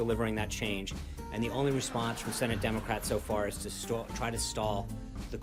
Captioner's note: laugh track